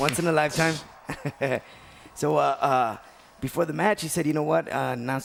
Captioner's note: laugh